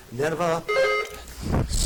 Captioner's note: buzzer dings